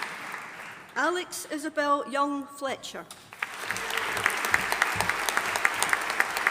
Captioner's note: audience applauding